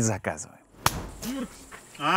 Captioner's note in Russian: хлопок